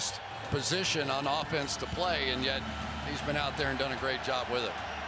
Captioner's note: cheers